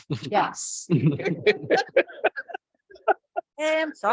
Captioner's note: people laugh